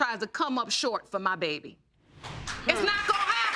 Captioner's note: audience clapping